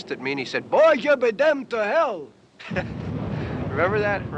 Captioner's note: chuckles